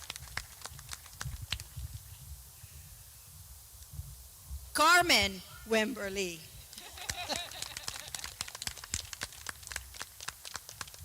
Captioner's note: clapping